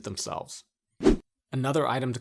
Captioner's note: air whooshing